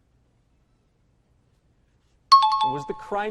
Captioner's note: timer bell rings